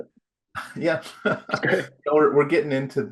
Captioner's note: laughs